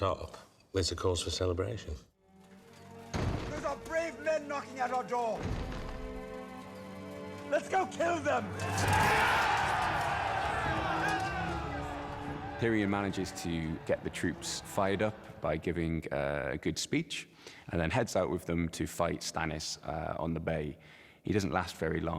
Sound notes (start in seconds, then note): 3.1 banging; 8.5 cheering